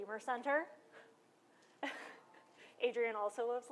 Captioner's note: laughter